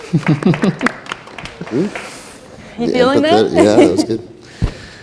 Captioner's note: applause